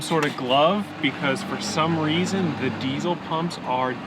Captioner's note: none